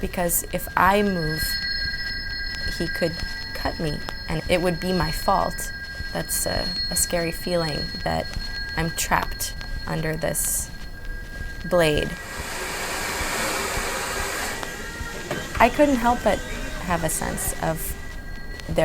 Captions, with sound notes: because if I move, he could cut me and it would be my fault. That's a scary feeling that I'm trapped under this blade. (Hair dryer sounds) I couldn't help but have a sense of